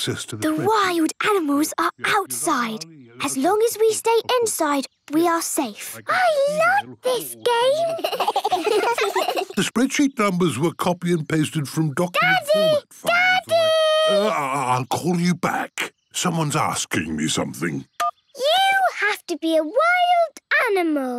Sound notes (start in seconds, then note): 6.4 giggling; 18.0 phone beeps